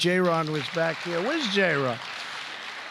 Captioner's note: applause